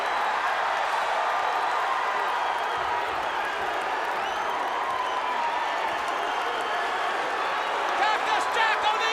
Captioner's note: crowd cheering